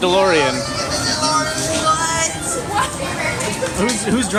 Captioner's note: laughing